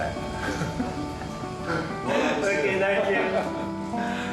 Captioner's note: laughs